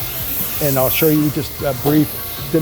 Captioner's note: steam hissing